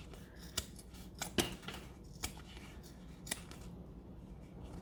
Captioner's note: scissors snipping